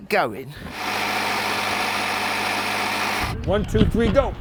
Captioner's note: car engine rumbling